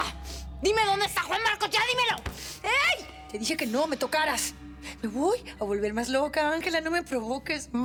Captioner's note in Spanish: Golpes